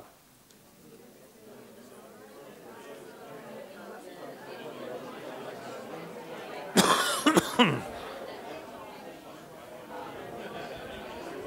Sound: audience discussion

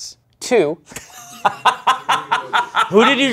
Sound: laughing

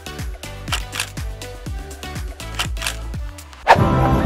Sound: camera shutter

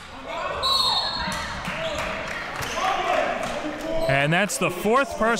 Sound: whistle blows

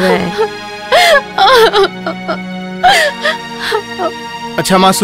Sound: sobbing

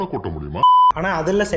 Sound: beeps

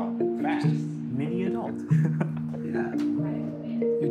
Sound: chuckles

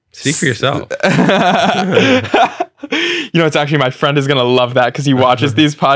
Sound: laughs

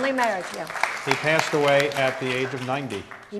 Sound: audience applauds

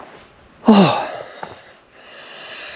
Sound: sighs

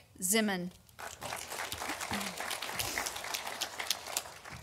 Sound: audience applauding

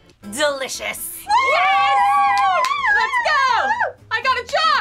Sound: cheering

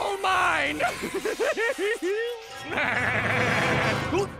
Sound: laughing

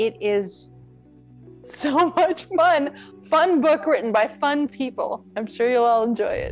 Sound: laughs

